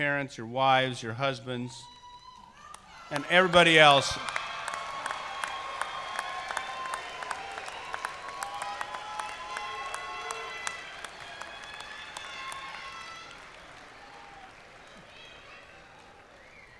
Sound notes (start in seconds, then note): 4.6 cheers and applause